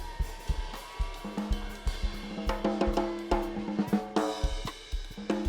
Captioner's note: students cheering and screaming